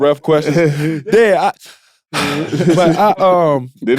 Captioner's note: breathing heavily; group chattering and laughing